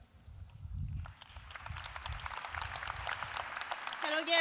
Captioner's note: audince applause